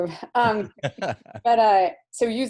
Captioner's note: laughs